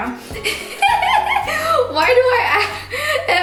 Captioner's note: laughing